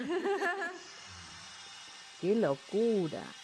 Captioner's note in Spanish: risas